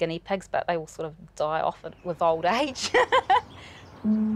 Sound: laughs

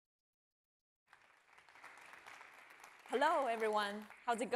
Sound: applause

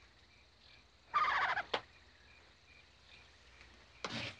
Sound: Freckles cooing

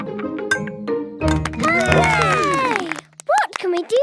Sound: all cheer

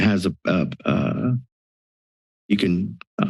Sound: silence

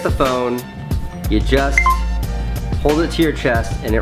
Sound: notification beeps

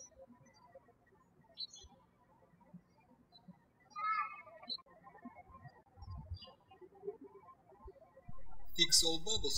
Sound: birds chirping

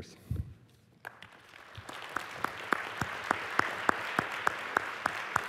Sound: applause

